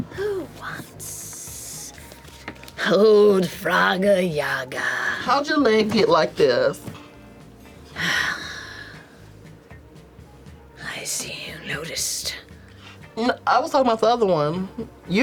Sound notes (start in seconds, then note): 7.9 sighs